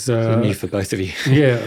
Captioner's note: chuckling